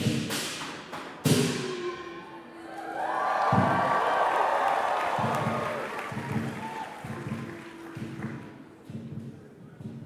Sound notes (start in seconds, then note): 2.8 applause; 5.4 drum music